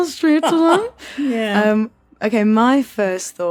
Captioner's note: laughs haughtily